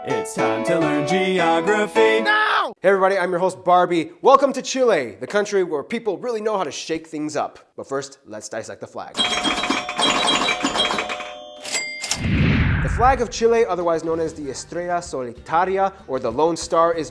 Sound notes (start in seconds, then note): 9.1 slot machine sound effects; 12.1 woosh!